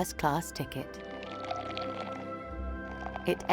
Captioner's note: liquid pouring